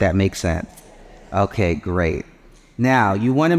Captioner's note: audience murmurs